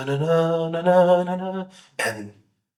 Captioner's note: humming